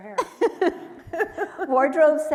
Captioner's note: laughs